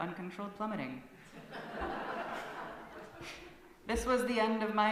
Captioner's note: laughter from congregation